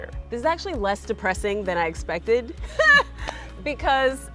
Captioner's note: laughs